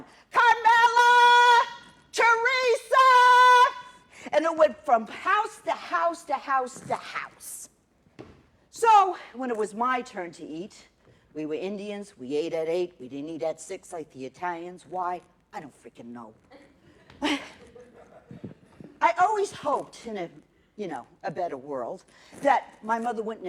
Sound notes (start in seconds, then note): 16.6 laughter